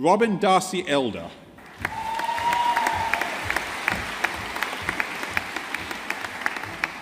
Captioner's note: audience applauding